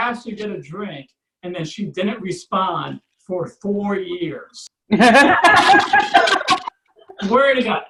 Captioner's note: audience Laughs